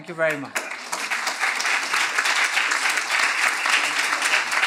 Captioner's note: applause